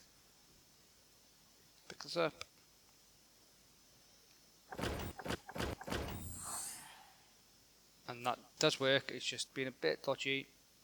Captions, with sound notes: Pick this up. [Door opens] And that does work. It's just being a bit dodgy.